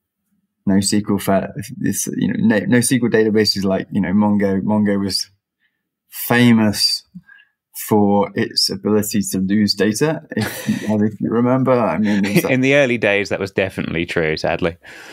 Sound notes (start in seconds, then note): 11.9 laughing